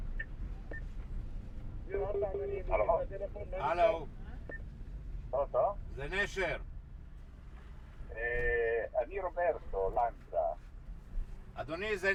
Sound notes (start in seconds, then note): 0.6 voiceover; 3.6 speaking in foreign language